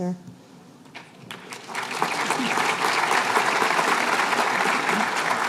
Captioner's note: applause